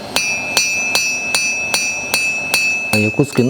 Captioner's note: bell